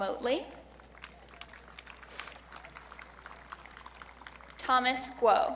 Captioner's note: audience clapping